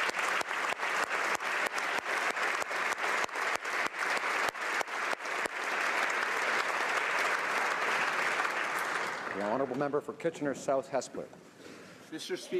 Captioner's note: applause